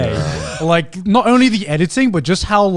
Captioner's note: laughing